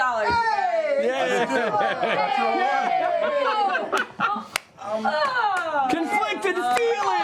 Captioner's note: cheering